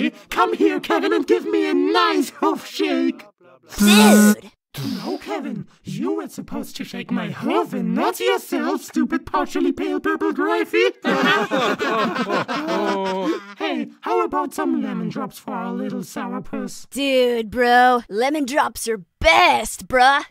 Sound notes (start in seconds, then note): 12.0 laugh